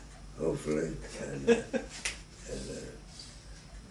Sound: chuckles

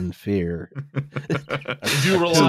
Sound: chuckles

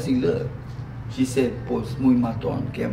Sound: speaking Spanish

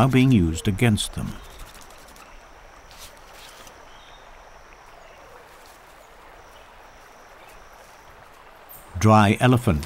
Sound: nature sounds

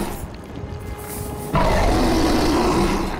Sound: roaring

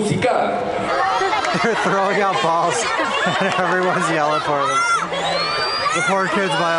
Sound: cheering

